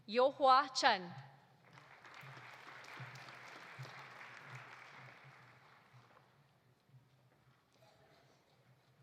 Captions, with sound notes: Youhua Chen. (audience applauding)